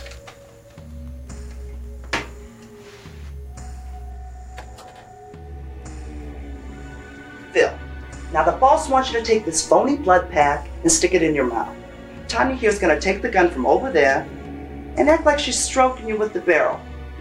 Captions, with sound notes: [Door creaks quietly] Phil... now the boss wants you to take this phony blood pack and stick it in your mouth. Tonya here’s gonna take the gun from over there and act like she’s strokin’ you with the barrel...